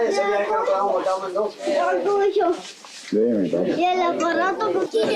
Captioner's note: baby chatter